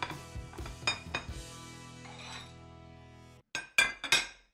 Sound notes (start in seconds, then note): 3.6 dishes clatter